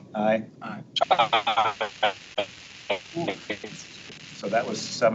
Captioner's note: radio interference drowns out speaker